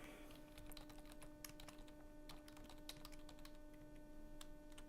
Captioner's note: keyboard typing